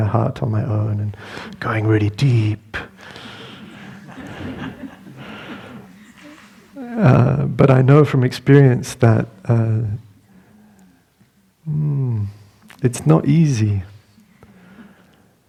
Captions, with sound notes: and living in a hut on my own, going really deep. (Laughter) But I know from experience that it's not easy.